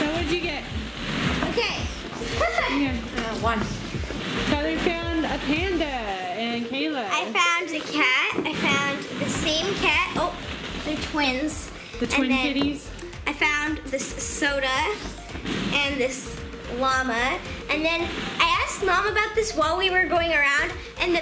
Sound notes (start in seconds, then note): 2.2 laughing